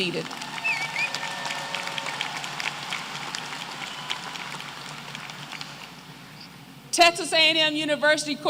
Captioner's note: applause